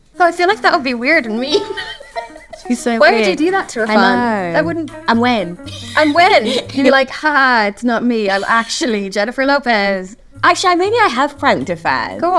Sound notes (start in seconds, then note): 1.0 laughs